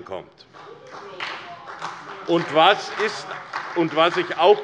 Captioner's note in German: Beifall bei der SPD